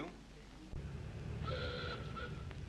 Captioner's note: horn hoots